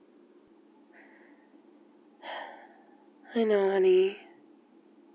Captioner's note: sighs